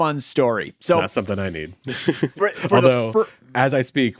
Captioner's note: laughs